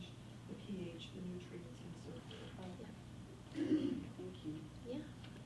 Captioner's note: faintly speaking